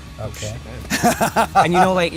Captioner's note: laughs